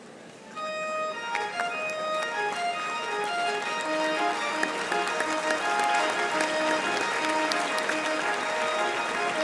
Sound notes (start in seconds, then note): 0.6 exultant music; 1.0 audience applauding